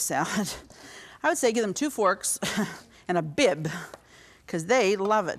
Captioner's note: chuckles